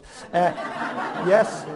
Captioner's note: audience laughs